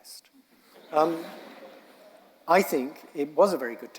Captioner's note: audience laughing